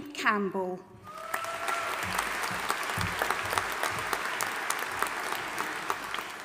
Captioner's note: audience applauding and cheering